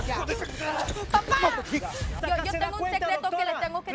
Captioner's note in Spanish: Golpes